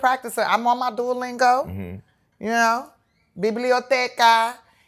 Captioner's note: speaking spanish